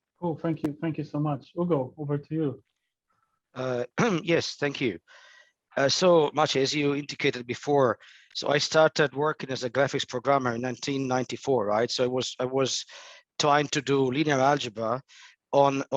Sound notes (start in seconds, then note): 3.9 clears throat